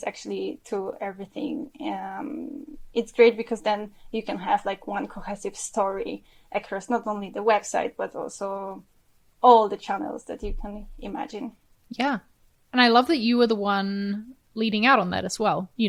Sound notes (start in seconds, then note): none